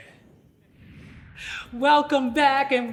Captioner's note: air whooshing